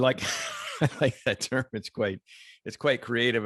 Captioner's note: laughs